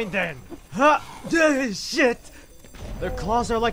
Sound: distressed noise

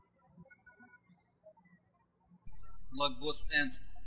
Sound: birds chirping

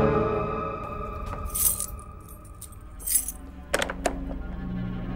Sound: keys jingle

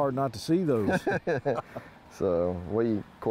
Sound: laughs

